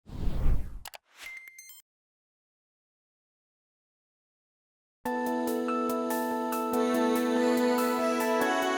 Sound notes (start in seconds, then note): 0.0 whooshing; 5.1 soft instrumental music